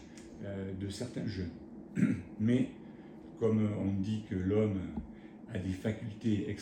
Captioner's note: raclement de gorge